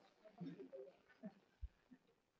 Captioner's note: laughter